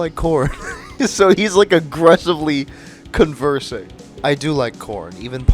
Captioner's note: laughing